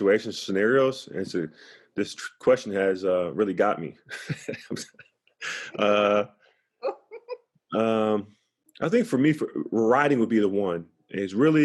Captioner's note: laughs